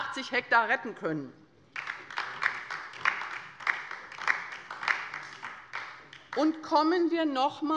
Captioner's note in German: Beifall bei der LINKEN